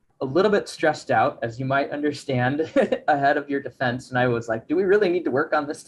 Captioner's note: chuckles